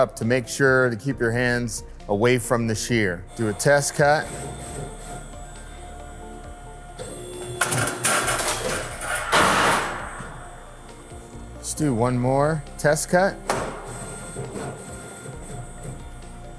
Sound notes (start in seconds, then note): 4.4 gear whirring; 7.6 blade clacks; 13.7 gear whirring